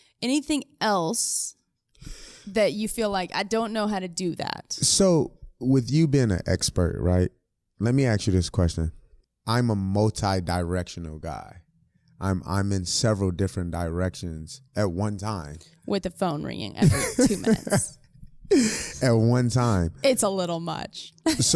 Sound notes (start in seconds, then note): 16.8 laughs; 21.2 laughs